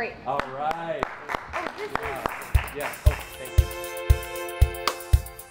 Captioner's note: applause